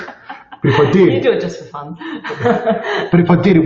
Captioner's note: laughs